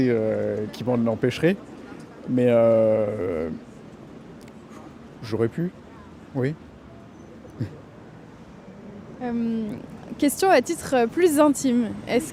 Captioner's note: laughter